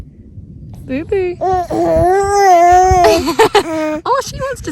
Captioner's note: baby mumbles; laughing